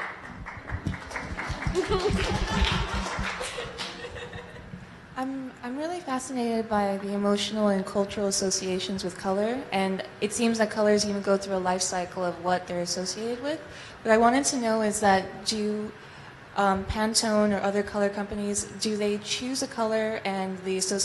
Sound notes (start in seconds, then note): 0.0 clapping; 3.5 laughing